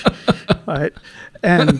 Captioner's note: both laughing